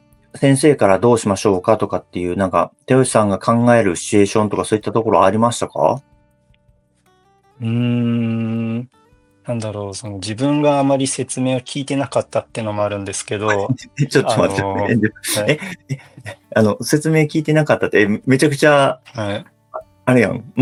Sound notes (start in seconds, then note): 13.4 laughs